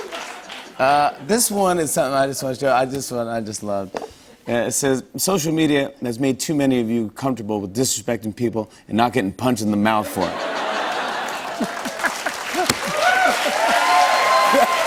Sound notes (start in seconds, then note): 10.1 laughter; 10.3 cheers and applause